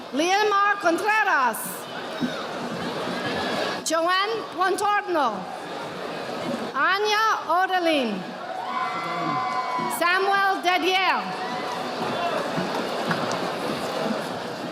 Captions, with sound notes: Liamar Contreras. Joanne Juantarno. Anya Oderling. (audience applauding) Samuel Dedial.